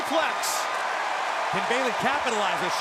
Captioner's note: crowd cheering